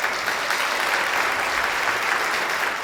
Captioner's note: applause